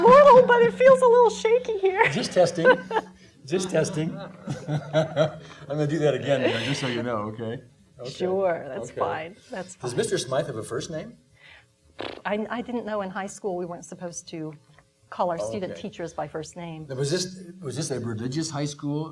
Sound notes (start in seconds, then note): 3.6 laughing